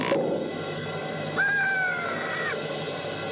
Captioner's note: caws